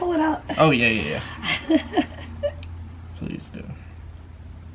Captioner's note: chuckling nervously